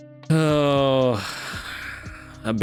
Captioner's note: sighs